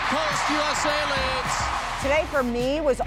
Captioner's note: crowd cheering